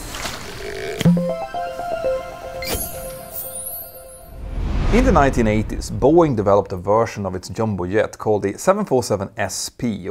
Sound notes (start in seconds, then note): 1.0 playful chime